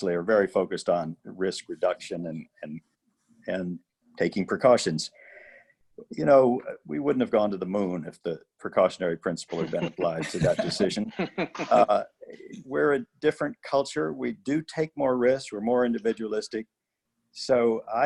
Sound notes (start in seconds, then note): 9.5 laughter